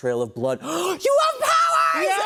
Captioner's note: gasps